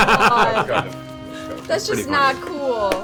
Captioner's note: all laugh